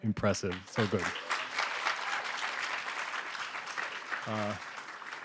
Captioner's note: applause